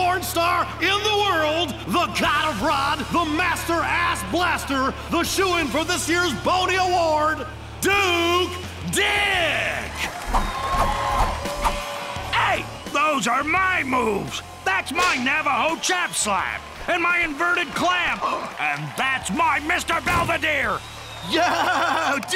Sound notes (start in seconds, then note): 8.4 cheers and applause; 16.9 gasps